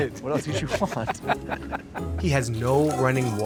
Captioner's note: Baratunde laughing